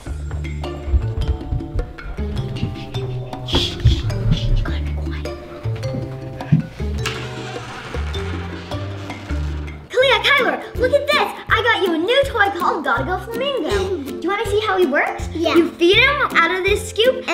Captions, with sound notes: [sneaky music] You gotta be quiet. [door creaking] Kalia, Kyler, look at this! I got you a new toy called "Gotta Go Flamingo". Do you want to see how he works? You feed him out of this scoop